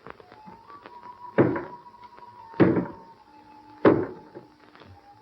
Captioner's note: knocking